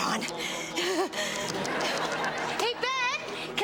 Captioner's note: laughs; audience laughs